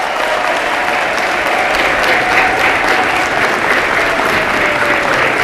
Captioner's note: applause